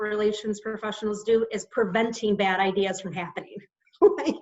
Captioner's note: laughs